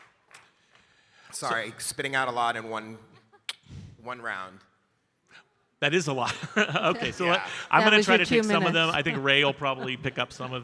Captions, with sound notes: Sorry, spitting out a lot in one round. - That is a lot. (laughs) So I'm gonna try to- - Two minutes. - Get some of them.